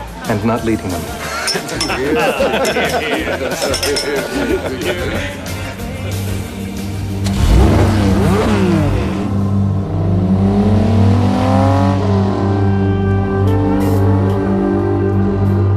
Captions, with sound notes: ...and not leading them. [laughing] [engine revving] [instrumental music]